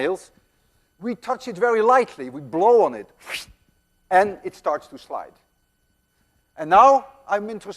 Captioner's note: imitates blowing